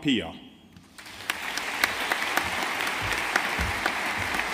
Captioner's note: audience applauding